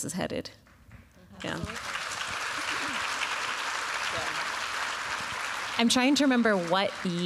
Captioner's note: applause